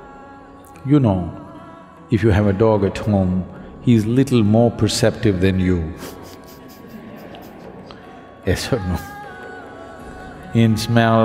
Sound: laughs

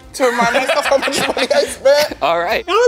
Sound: laughs

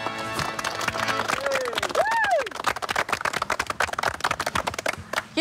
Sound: applause and cheering

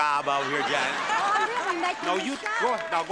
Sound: audience laughing

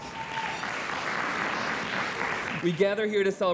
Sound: audience applauds

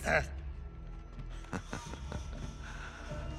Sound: laughs

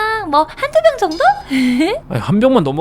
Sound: giggles

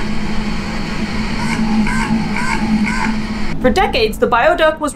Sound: metallic low thrumming; noise abruptly fluctuating between low & medium pitch

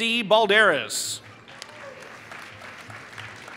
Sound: applause

